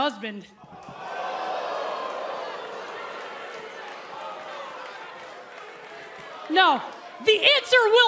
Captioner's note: crowd response